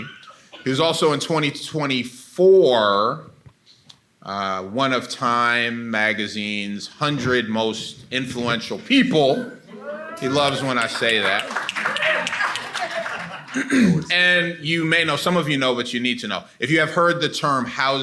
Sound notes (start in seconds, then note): 10.1 attendees cheer and clap; 11.4 attendee laughing; 13.4 clears throat